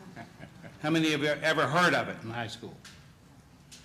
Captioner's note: chuckling